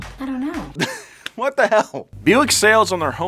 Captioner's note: laughs